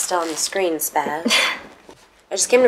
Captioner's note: Laura chuckles nervously